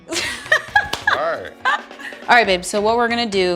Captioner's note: laughing